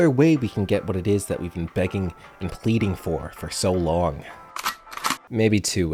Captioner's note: cocking of glock